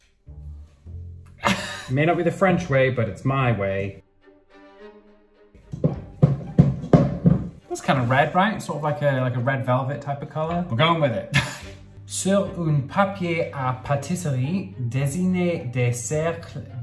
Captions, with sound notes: It may not be the French way, but it's my way. (bowl thudding) It looks kinda red, right? And sort of like a red velvet type of color. We're going with it. (speaking in foreign language)